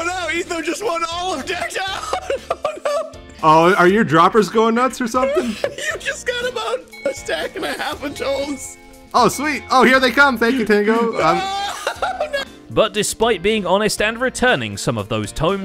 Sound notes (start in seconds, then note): 10.4 laughs